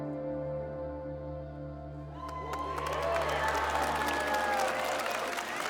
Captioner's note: applause